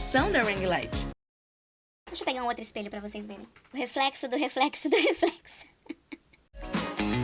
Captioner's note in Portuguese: risos